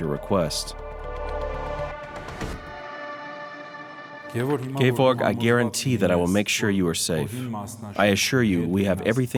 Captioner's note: voiceover